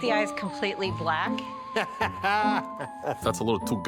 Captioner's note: Buddy laughs